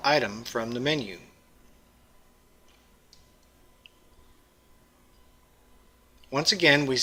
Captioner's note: pause